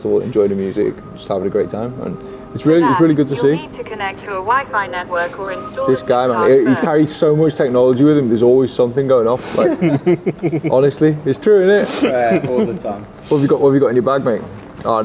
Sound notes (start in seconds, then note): 9.5 group chuckling